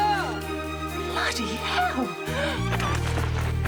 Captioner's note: gasps